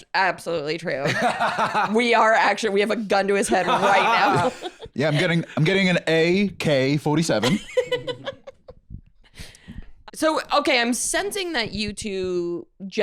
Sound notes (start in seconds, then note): 1.6 laughs; 7.4 laughs